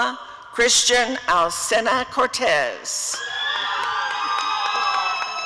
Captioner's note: applause and cheering